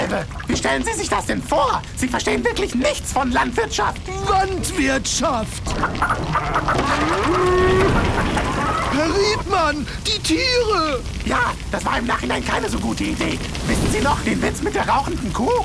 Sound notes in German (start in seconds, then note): 5.6 Tiergeräusche